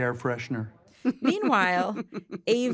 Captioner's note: laughs